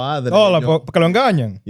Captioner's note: speaking Spanish